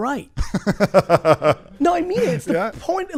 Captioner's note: laughs